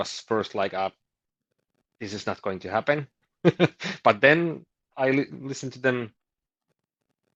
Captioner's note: chuckles